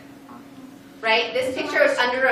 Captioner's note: students talking among themselves